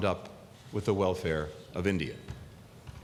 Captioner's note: none